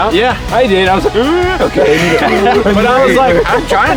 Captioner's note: gasps